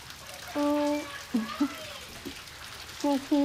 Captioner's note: chatter; groans